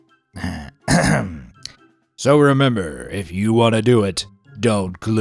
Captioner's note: clears throat